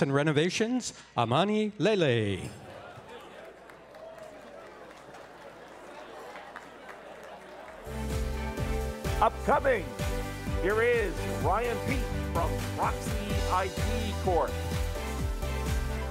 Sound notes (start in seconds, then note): 5.6 applause